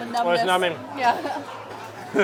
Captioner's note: laughs